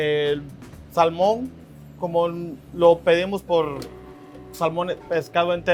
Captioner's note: speaks Spanish